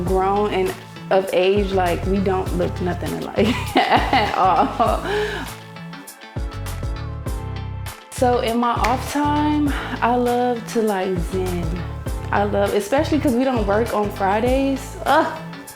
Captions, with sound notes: grown and of age, like we don't look nothing alike at all. (laughs) (lively music) So in my off time, I love to, like, zen. I love, especially because we don't work on Fridays.